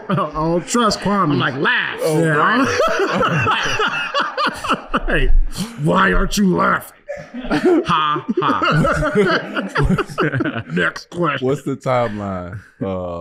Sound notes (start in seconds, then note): 2.6 laughing; 8.9 group laughing